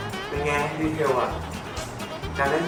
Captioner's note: handshake